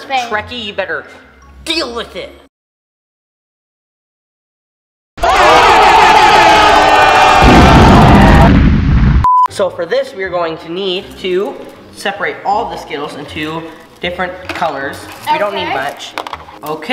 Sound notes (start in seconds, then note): 5.2 crowd yelling; 7.3 bombs exploding